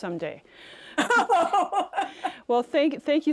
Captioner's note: both laugh